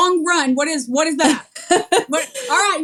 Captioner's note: laugh